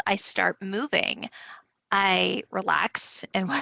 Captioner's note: chuckling